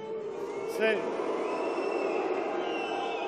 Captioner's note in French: Sifflements